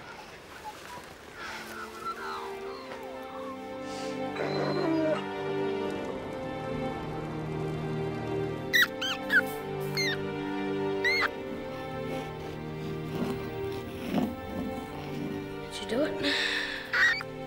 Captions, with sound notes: (gentle music) (rat squeaking) - That should do it.